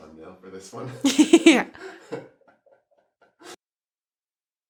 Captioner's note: laughs